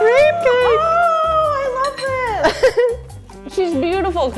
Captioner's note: gasps